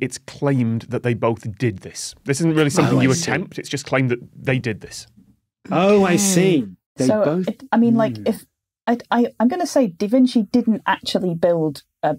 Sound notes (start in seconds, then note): 8.6 stammers